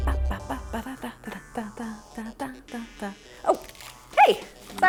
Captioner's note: humming